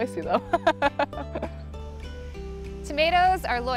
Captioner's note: laughs